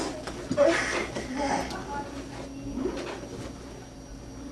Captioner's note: grunting